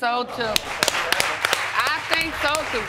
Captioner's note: people applauding